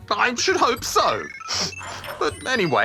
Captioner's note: sniffs